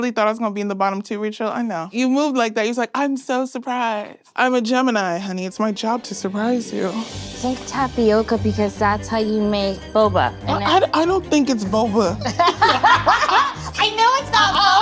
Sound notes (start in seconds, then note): 8.0 playful music; 12.2 both laughing